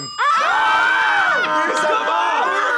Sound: group yells

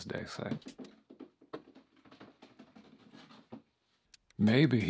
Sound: small Footsteps

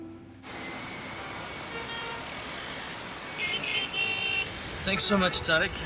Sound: car horns honking and breaks squeaking

